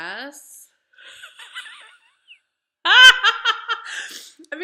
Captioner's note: laughing